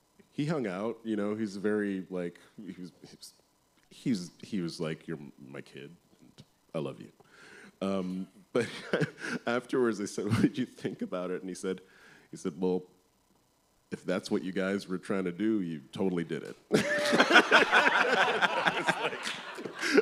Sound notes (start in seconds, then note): 8.6 chuckles; 16.7 laughter